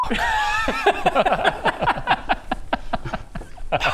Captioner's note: unsupportive giggles